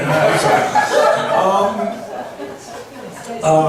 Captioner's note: laughs